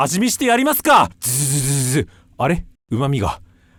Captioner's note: slurp slurp